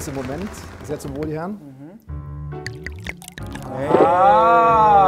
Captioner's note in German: Trinkgeräusche, Schlucken